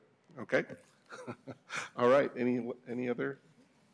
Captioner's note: laughter